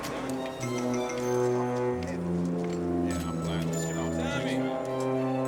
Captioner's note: men Chattering